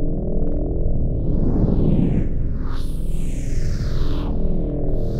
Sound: objects whooshing

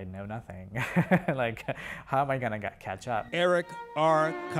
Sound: laughter

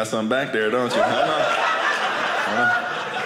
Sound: audience laughing

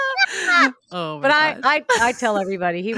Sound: women laughing

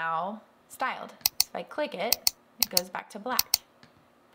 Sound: clicking

